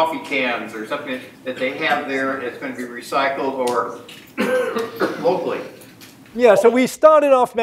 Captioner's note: cough